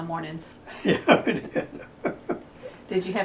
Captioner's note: laughter